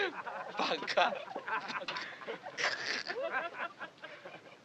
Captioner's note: speaking Japanese